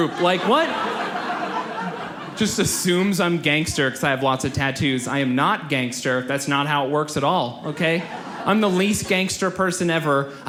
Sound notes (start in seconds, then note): 0.0 audience laughs